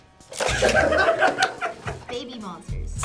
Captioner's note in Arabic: كلاهما يضحك